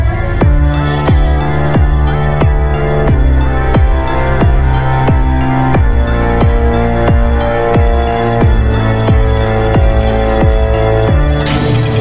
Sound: fire alarm

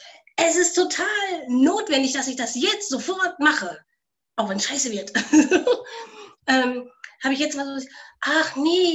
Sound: laughs

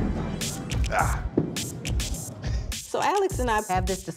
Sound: grunts

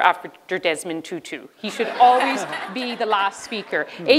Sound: laughter

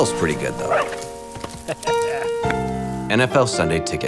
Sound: laughs

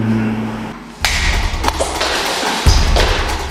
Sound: fighting noise

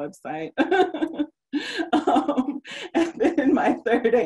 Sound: laughing

